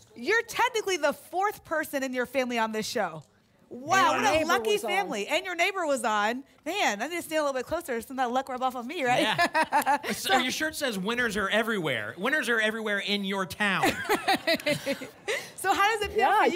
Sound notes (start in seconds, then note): 9.0 laughs; 13.8 laughter